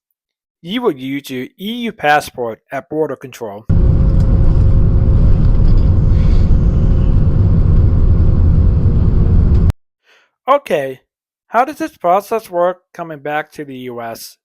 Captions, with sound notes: You will use your EU passport at border control. (Plane Engine Noise) OK. How does this process work coming back to the US?